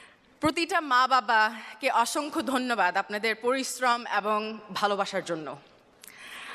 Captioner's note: speaking Bangla